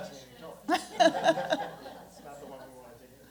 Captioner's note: laughter